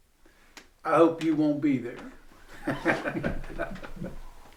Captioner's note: laughs